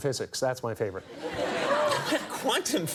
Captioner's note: audience laughs